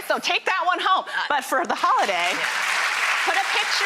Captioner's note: applauding